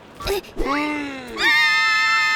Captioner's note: gasp!; girls screaming